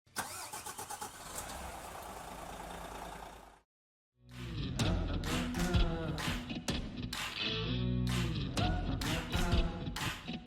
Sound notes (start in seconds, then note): 0.2 engine revving; 4.3 upbeat music